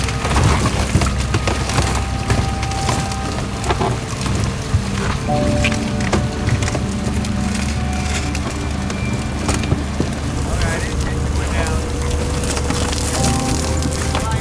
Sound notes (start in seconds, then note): 1.8 car rumbling; 1.8 soft intense music continues